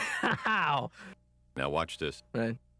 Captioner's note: laughs